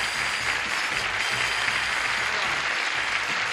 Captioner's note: applause